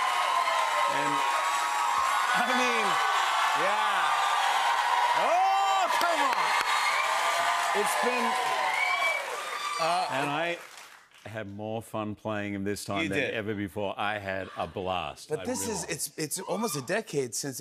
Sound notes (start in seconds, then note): 3.0 cheers and applause continue